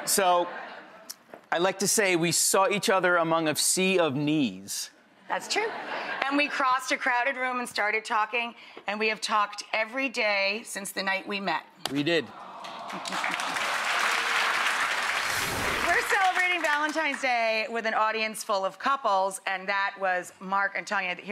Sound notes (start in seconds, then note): 12.6 applause